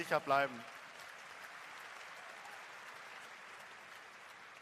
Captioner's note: applause